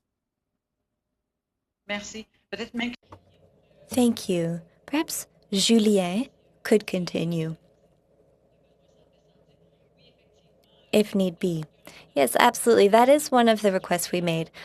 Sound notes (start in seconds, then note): 6.5 speaking French